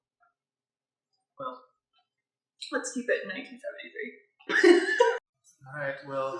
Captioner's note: laughter